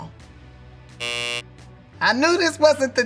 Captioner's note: buzzer sounding